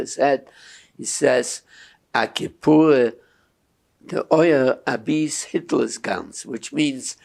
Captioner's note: yiddish